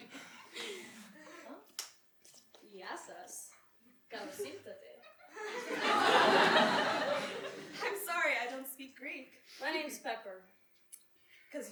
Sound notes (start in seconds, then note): 2.6 speaks Greek